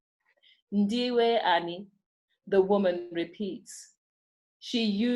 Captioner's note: speaking in foreign language